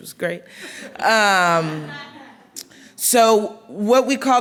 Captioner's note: laughing